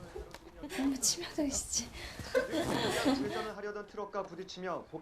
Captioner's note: giggle